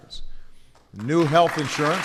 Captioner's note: applause